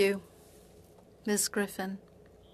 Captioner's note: speaking French